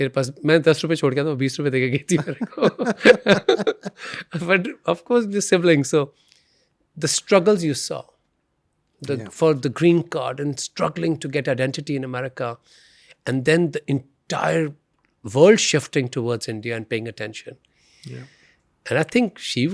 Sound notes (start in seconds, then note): 2.1 laughs